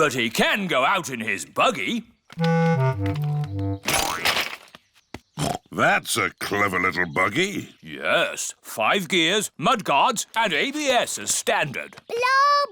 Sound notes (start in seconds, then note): 5.7 snorts